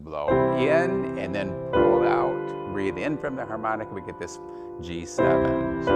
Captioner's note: breathe in